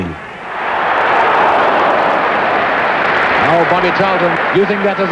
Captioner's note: crowd exclaim and applaud